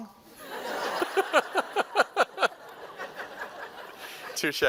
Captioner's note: laughter